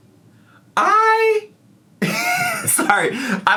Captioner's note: laughs